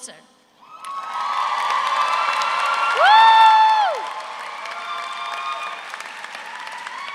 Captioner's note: audience cheers; audience applauds